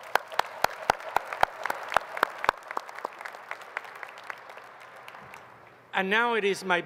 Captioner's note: applause